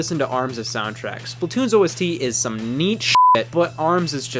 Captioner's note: beep